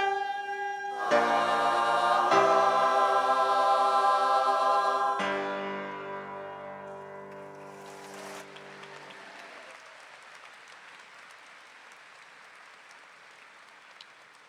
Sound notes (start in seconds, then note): 7.3 audience clapping